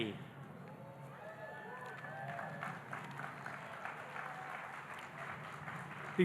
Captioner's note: audience cheering and applauding